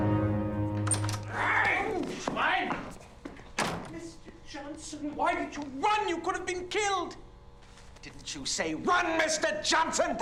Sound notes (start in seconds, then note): 2.0 speaking german